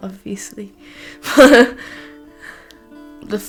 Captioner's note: nervous laughter